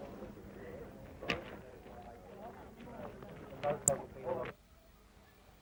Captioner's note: indistinct chatter